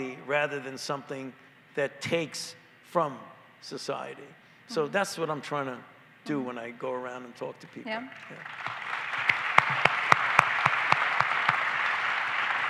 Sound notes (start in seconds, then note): 10.7 applause